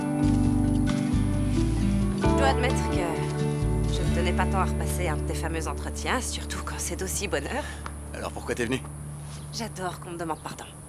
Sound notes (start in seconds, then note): 7.3 sighs